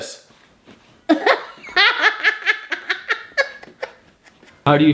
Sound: laughs

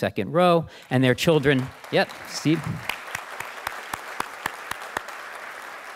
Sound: audience applauding

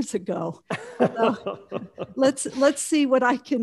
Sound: laughing

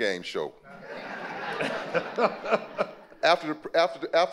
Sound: audience laughing

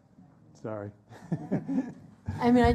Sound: laughs

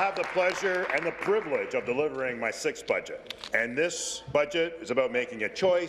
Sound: applause

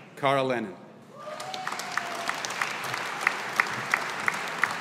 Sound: audience applauding

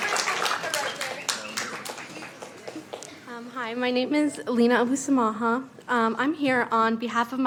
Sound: cheers and applause

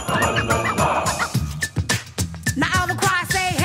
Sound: beatboxing

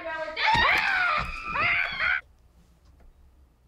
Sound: both scream

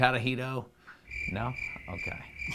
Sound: crickets chirp

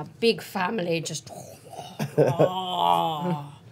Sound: groaning

